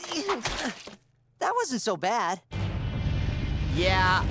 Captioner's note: both grunting